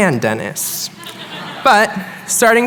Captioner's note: chuckling